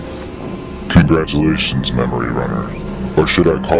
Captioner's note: distorted Voice